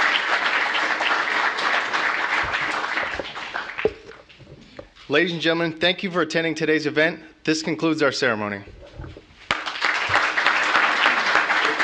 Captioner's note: applause